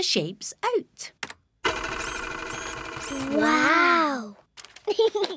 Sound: printer whirring; giggles

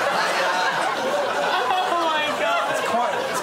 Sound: laughter

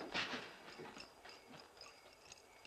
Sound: spurs jingling

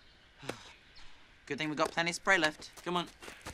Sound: sighs

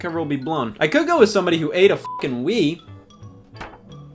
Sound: beep

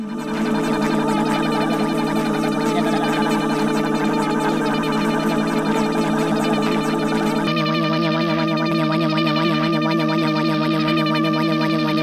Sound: multiple motor sounds

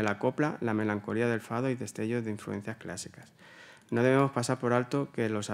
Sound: continues in Spanish

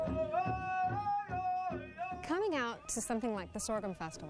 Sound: chanting

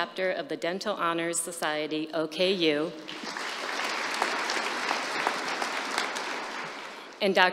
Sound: applause

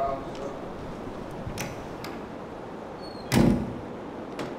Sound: door shuts

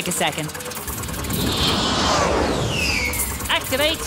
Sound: whirring

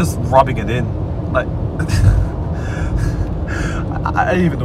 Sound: chuckles

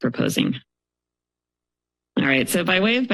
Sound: pause

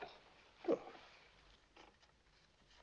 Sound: Cookie Murmurs

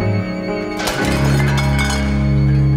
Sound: cowbells clattering

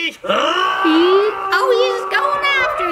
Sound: growls

